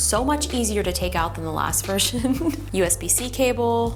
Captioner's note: chuckles